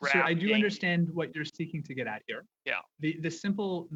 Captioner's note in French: voix de l'interprète